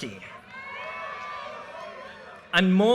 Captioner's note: audience cheers and applause